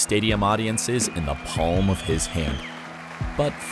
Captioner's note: crowds cheering